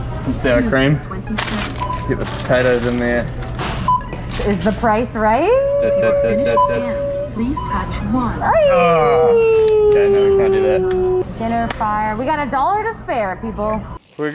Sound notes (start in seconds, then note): 0.0 beep; 1.8 beep